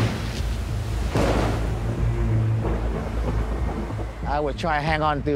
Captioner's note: thunder crashing